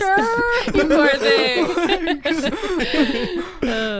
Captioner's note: everyone laughs